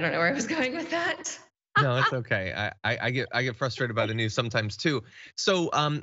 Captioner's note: laugh